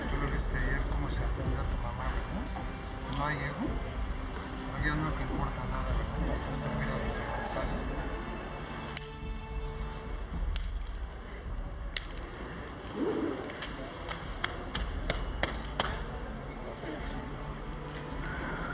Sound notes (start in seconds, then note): 8.9 slap; 12.0 slap